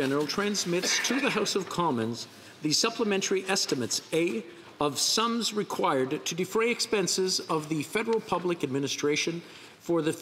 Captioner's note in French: voix de l'interprète